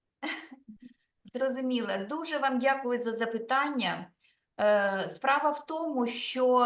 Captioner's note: speaking Ukrainian